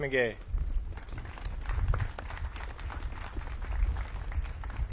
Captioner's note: audience claps